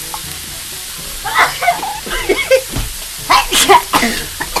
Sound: sneeze and cough

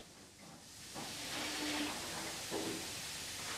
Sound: hissing

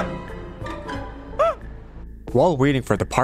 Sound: scream; scream

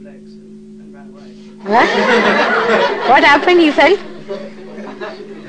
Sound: laughter

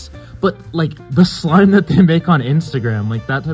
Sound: jokingly

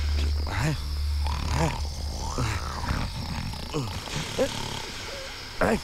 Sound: snoring

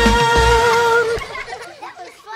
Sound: laughter

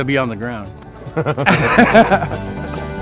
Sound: laughing; country music playing

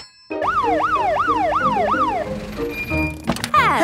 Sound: siren sounding

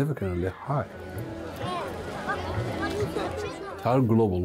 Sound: crowd chattering

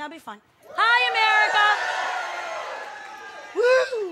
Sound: audience cheering

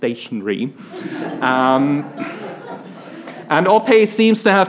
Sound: attendees laughs

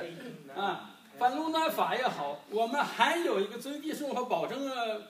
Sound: speaking foreign language

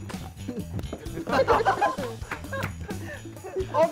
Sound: laughing

